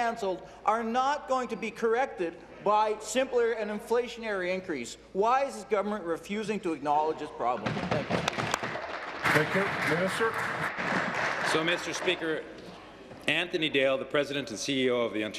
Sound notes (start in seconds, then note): 12.3 applause